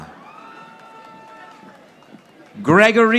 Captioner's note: audience applauding